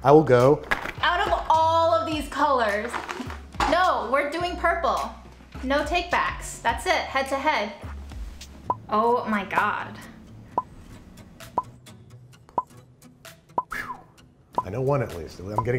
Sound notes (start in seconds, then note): 11.5 timer ticks; 13.6 he whistles softly